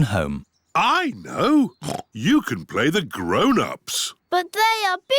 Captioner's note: oinks